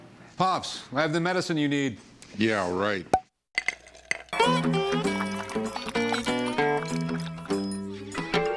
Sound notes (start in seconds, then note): 3.5 liquid pouring; 3.5 cork pop; 4.4 upbeat music